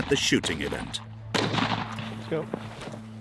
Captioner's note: gun firing